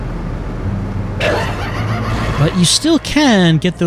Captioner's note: crazed laughter, blood explosion